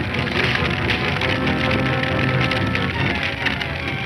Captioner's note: man punching; dramatic music